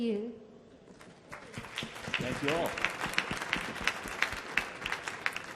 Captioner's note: audience clapping